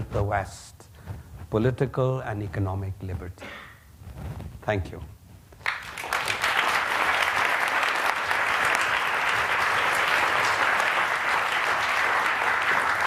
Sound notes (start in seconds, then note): 5.6 applause